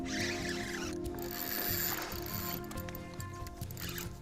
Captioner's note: line reeling